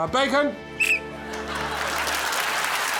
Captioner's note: whistle blows